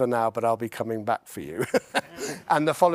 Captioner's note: laughs